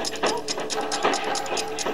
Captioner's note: banging; ticking